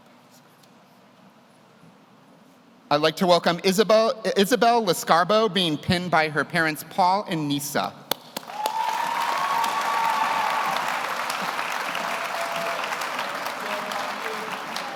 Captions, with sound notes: I'd like to welcome Isabelle Le Scarbo, being pinned by her parents, Paul and Nisa. (audience cheers) (audience applauds)